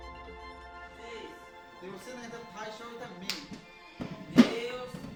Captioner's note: teacher speaking in Yanomami